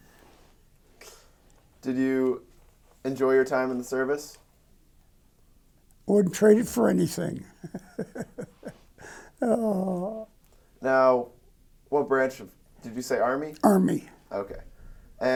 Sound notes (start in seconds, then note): 6.2 laughs